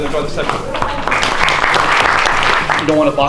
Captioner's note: applause